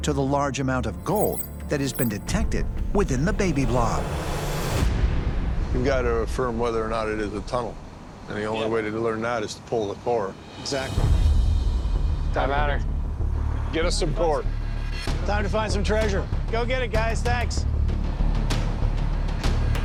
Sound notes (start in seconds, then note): none